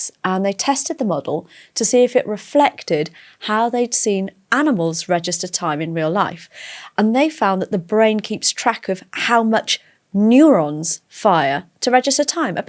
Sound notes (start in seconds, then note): none